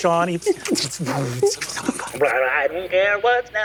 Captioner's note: mimics electronics whirring